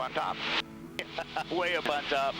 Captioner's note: laughs